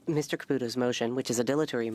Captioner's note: speaking French